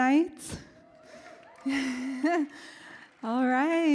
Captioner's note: audience cheers